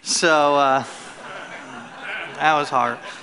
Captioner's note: laughter